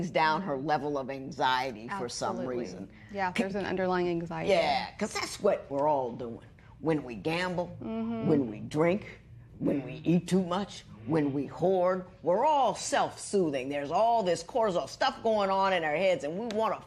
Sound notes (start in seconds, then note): none